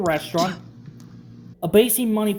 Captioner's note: spit